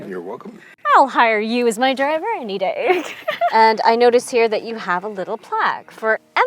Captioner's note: laughs